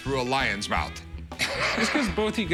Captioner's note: guffaws